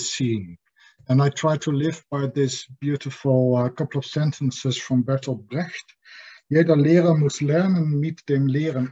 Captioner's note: reads quote in German